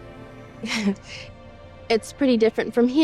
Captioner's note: Sophie laughs